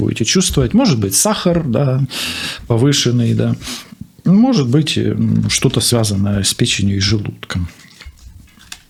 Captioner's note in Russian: фыркает